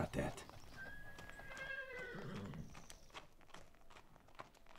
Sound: horse whinnying

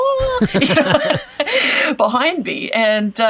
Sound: both laugh

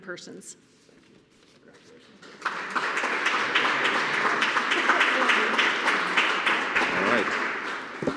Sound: applause

